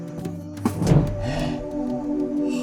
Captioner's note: gasp